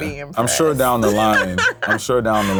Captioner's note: laughs